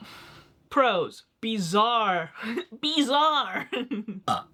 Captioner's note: burps